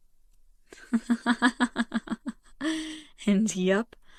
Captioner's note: laughs